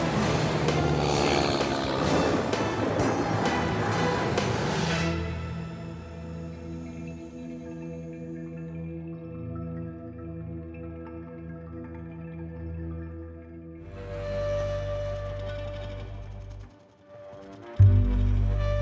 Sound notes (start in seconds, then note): 1.6 engine roaring; 5.8 mysterious music; 13.8 dramatic thoughtful music